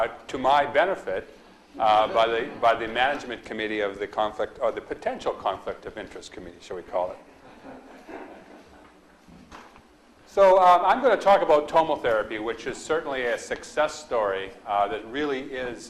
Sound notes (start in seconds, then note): 7.4 audience laughs